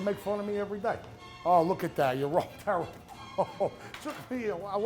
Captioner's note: laughs